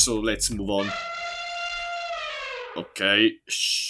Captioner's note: elephant sound